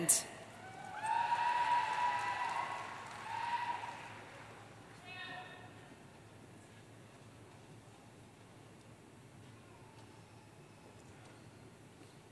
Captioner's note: cheering